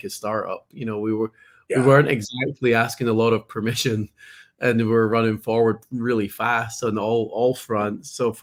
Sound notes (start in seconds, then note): 4.8 laughs